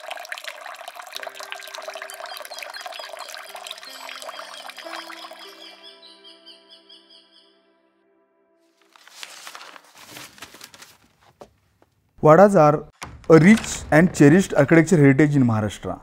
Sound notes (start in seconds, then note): 0.0 birds chirping; 0.0 water gurgling; 1.0 traditional music; 1.8 birds chirping; 5.8 traditional music